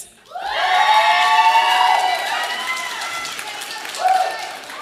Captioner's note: audience applauding